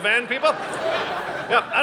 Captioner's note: audience laughing